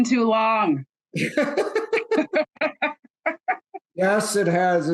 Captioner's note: laughter